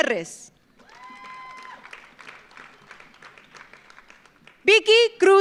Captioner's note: audience cheers; audience applauds